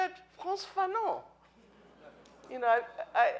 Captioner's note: speaking in foreign language